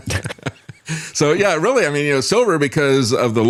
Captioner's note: laughs